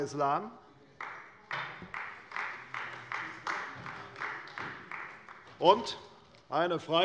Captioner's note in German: Beifall bei Abgeordneten der CDU